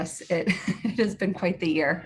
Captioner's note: laughs